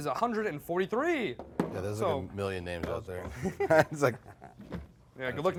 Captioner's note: chuckles